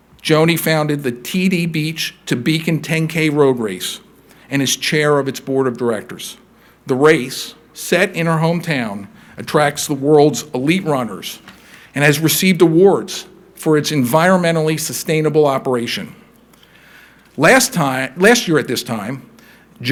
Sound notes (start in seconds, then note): none